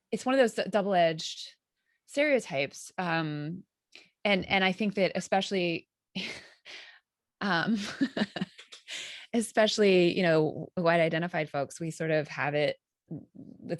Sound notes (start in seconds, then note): 7.8 chuckling